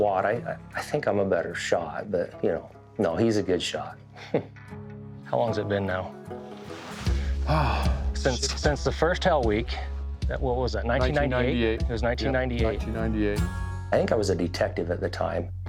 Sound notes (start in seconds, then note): 4.1 giggles; 7.1 sighs